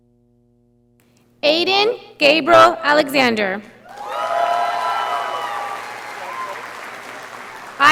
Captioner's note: audience applauding